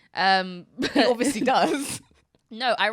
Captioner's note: laughs